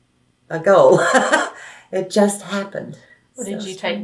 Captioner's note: laughs